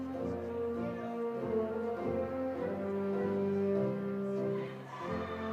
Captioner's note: attendees chattering